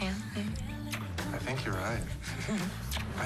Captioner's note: chuckles